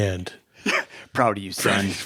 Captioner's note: chuckles; laughing